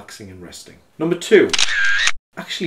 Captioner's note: camera snaps